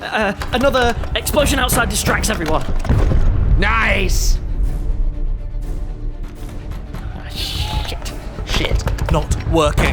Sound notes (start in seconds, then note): 2.7 explosion booming in the distance; 5.0 dramatic music; 7.2 people yelling; 8.4 banging on door